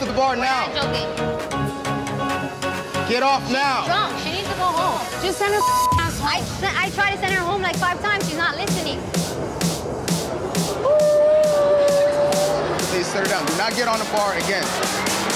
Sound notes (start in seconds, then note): 5.5 beep; 9.8 dance music